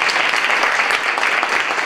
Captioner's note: applause